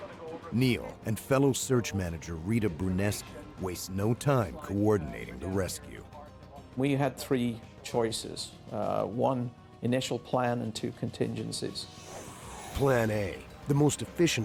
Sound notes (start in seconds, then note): 6.1 voiceover